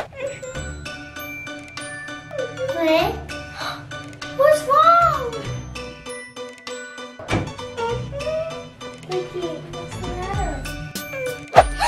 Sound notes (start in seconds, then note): 0.0 child crying; 3.5 child gasps; 7.8 whimpering; 11.5 child gasps